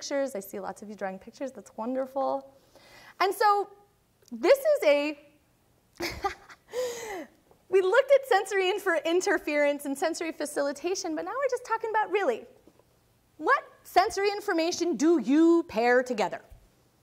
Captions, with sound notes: I see lots of you drawing pictures, that's wonderful. And so this is a (laughing) we looked at sensory interference and sensory facilitation, but now we're just talking about, really, what sensory information do you pair together?